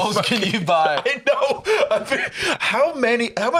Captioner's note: laughing